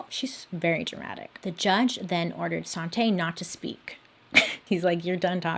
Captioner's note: chuckles